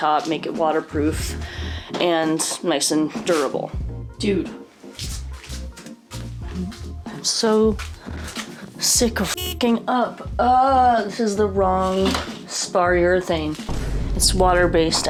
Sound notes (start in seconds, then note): 13.6 Vine boom